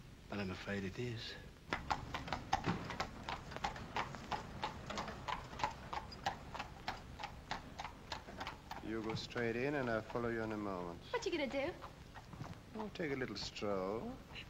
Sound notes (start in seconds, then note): 1.6 hooves trot away